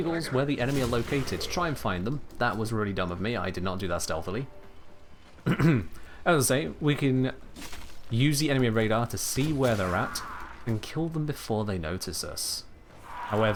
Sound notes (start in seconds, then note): 5.4 clears throat